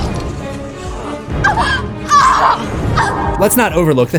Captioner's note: screams